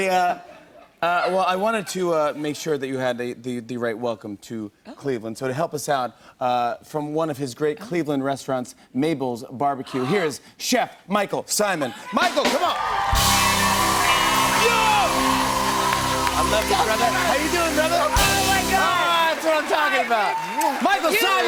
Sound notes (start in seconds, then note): 0.1 laughter; 9.9 gasps; 13.2 cheers and applause